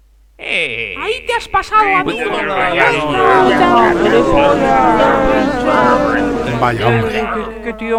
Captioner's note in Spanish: abucheos